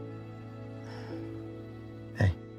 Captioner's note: Jackie sighs